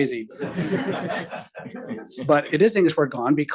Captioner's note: attendees laughing